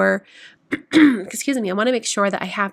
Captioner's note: clears throat